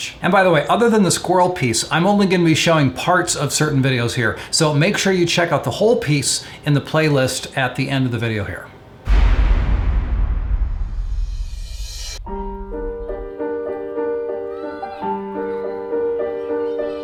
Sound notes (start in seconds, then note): 9.0 explosion; 12.2 moving piano music